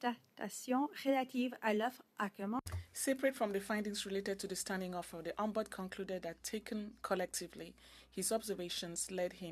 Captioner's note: speaking French